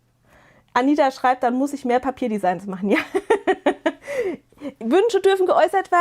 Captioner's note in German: gelächter